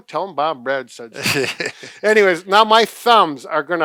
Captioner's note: chuckles